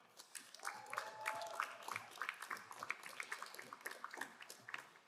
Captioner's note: crowd applauding